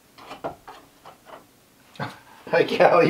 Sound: scratching

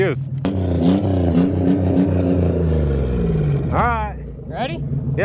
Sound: vehicle engine roar

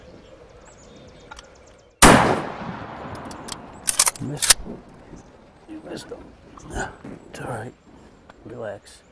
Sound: gunshot

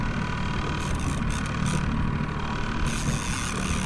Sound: boat engine rumbling; reels clicking

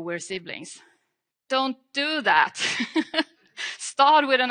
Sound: laughs

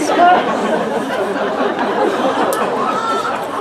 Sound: laughter

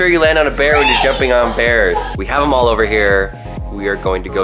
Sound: laughing

